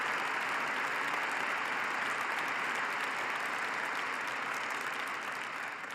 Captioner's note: applause